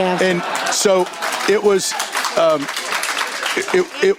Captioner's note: cheering and applause